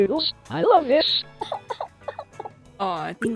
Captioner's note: cry Sfx